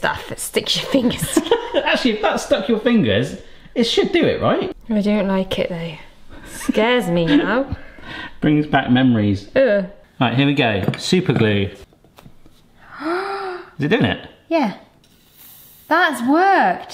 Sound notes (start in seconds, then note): 12.8 gasps